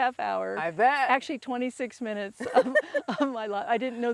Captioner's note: laughs